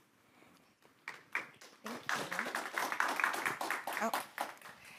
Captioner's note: audience applauds